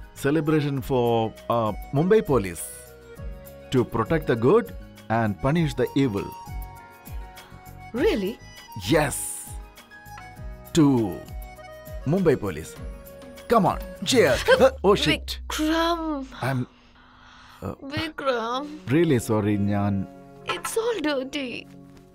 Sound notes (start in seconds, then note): 11.9 Glasses clinking